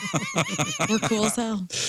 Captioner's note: laughter